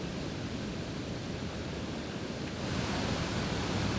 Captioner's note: loud water running